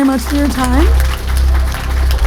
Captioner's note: applause